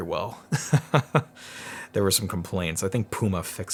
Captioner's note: laughing